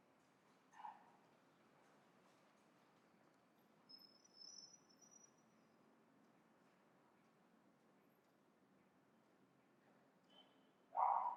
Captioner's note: silence